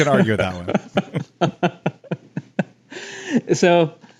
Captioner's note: both laugh